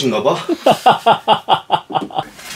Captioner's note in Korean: 웃음소리